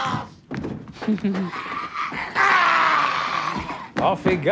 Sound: screaming

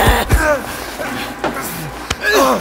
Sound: both Grunting

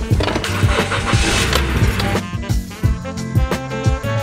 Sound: car starts

